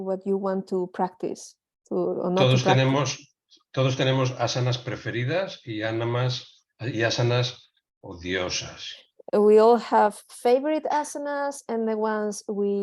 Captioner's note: laughter